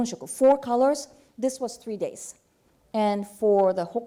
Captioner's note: speaking japanese